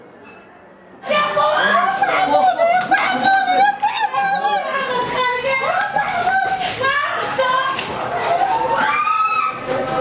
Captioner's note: woman screaming